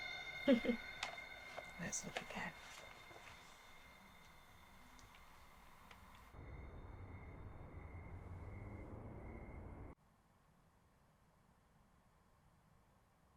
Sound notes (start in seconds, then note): 0.4 Tilly chuckling; 6.9 crickets chirping